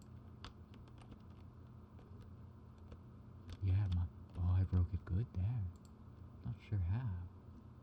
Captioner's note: clicking